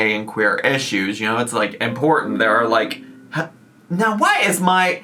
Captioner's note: computer chiming